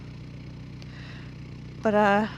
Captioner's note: engine rumbling